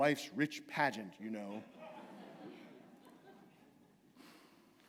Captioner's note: laughter